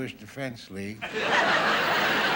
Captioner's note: audience laughing